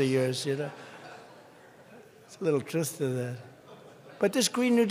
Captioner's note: laughter